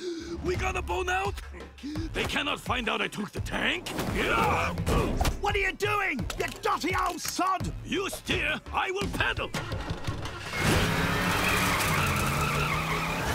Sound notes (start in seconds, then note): 9.6 engine roaring